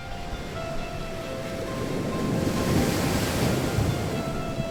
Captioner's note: soft music playing; waves crashing